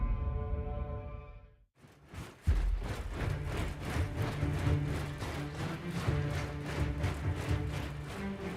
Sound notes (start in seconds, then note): 1.8 army marches, clanks; 2.4 dramatic music plays